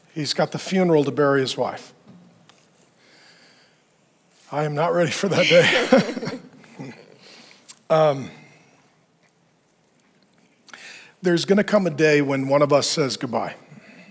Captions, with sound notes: he's got the funeral to bury his wife. I am not ready for that day. (laughs) There's gonna come a day when one of us says goodbye.